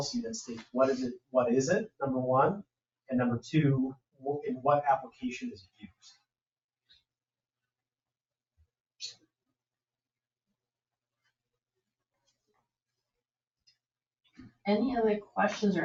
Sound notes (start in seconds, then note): none